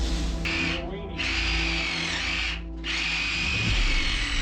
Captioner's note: drill grinding